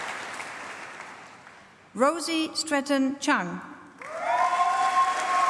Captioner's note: applause